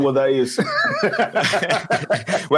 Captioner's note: speakers laughing